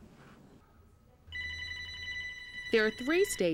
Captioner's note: telephone rings